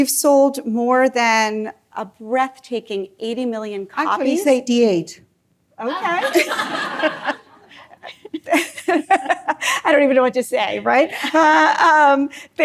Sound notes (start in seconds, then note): 5.8 laughter